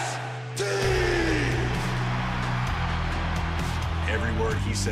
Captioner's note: crowd cheering